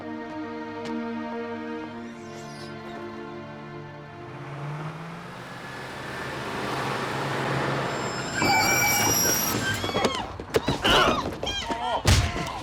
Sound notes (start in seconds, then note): 8.4 brakes squeal; 8.4 woman screams